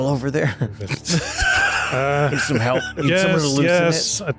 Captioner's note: laughter